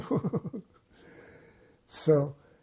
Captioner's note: laughing